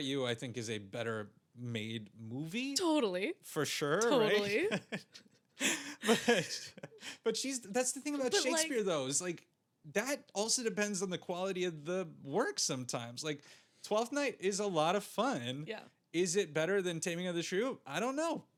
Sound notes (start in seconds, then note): 5.6 laughing